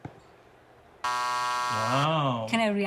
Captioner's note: buzzer